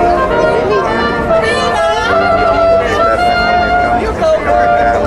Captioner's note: audience chattering